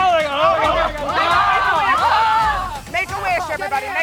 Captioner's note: grunts; campers panicking